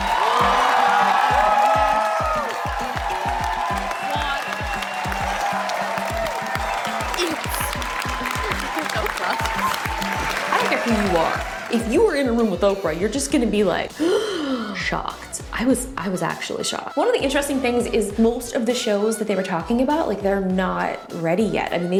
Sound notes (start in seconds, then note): 0.1 audience cheers; 4.9 audience cheers